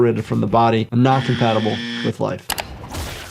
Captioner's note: buzzer buzzing; screen clicking